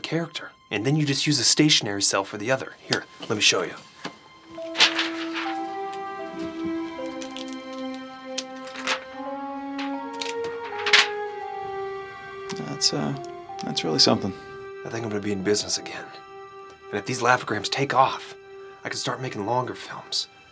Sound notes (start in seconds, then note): 4.4 paper moving back and forth